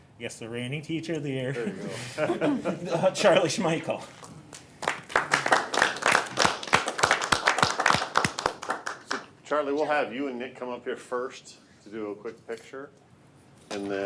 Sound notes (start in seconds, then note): 4.2 board members applaud